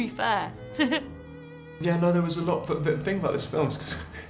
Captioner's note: laughter